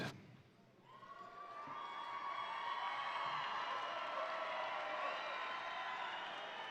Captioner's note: audience cheering and applauding